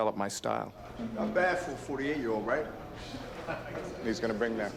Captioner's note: voiceover